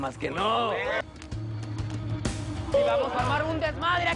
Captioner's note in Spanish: Aclamaciones